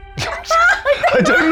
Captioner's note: players laughing